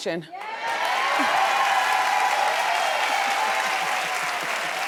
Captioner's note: audience cheers